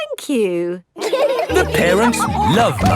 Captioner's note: all laughing